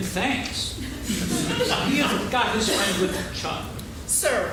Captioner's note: laughing